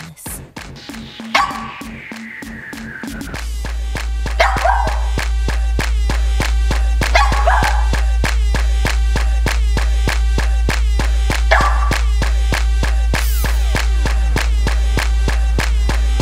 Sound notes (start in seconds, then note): 1.4 dog barking